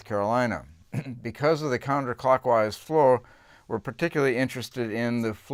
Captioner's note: cough